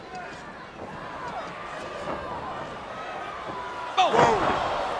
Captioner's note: body thudding; footsteps plodding